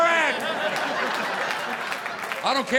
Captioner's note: audience applauding